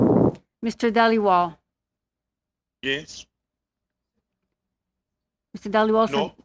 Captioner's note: speaking in French